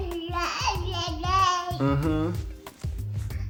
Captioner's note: baby babbling